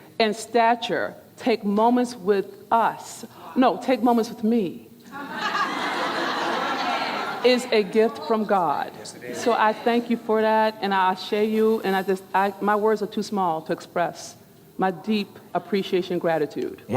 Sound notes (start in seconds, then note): 5.1 audience laughing